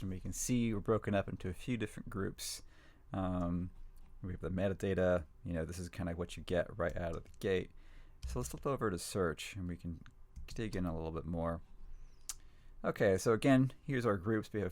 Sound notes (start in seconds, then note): none